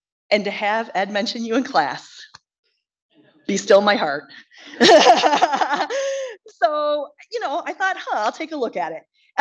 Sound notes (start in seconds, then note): 4.7 laughs; 4.7 audience laughs